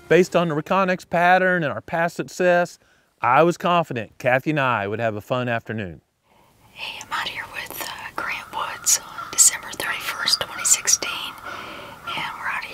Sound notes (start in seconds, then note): 6.3 whispering